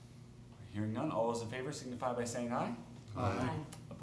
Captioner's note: chorus of ayes